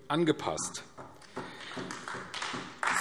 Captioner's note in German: Beifall AfD